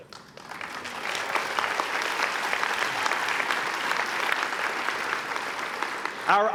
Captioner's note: applause